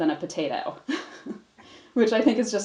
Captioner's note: chuckles